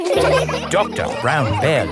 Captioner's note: all laughing